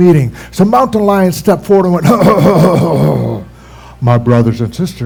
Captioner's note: clears throat